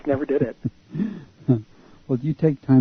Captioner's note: laughter